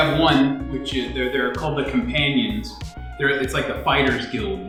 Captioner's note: none